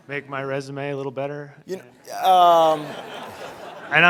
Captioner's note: laughter